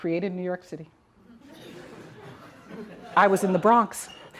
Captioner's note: audience laughs